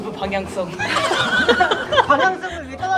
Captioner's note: burst into laughter